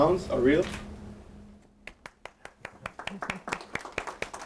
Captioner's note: applause